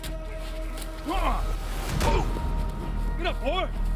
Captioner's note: both grunting; intense music